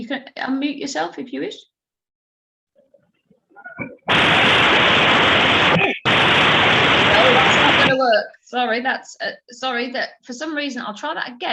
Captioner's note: static noise